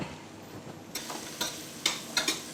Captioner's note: sizzling